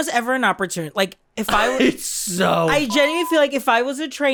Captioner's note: exasperated